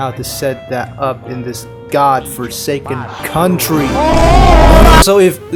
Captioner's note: grr